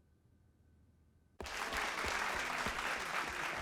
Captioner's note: all applauding